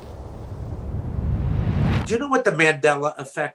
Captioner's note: air swooshing